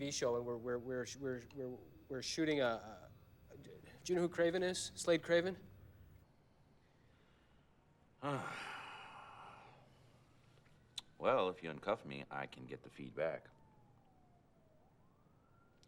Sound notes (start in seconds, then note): 8.2 sighs